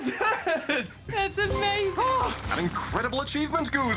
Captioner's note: chuckles